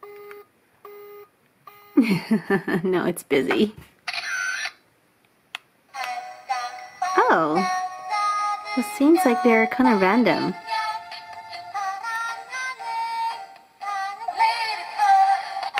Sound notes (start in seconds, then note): 1.7 busy tone; 2.0 giggle; 4.1 camera click; 6.0 in foreign language